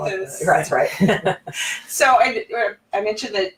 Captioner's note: they laugh